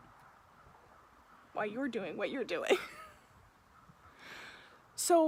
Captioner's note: laughs